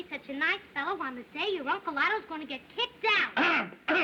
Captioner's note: clears Throat